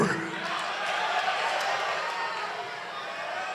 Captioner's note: applause